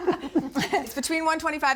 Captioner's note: laughing